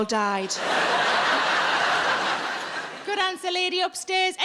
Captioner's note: audience laughs